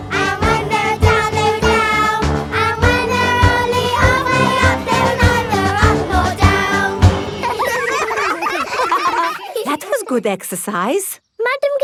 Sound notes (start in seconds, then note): 7.2 all giggling